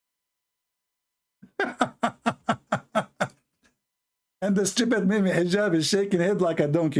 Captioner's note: Ketawa